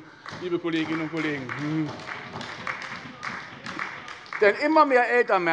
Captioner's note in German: Beifall bei der SPD